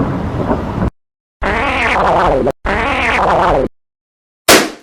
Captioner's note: blowing a raspberry